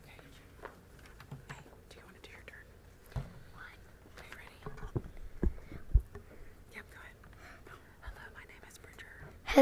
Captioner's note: whispered